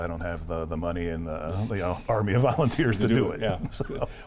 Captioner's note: laughs